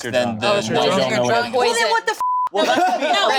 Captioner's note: group talking together; beep; group laughing